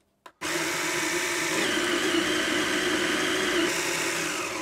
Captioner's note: grinder whirring